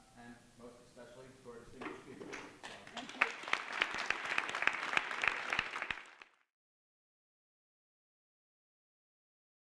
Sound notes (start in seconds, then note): 2.3 audience clapping